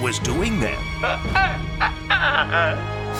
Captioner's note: stammering